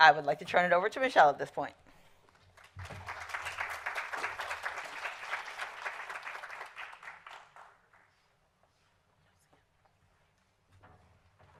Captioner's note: applause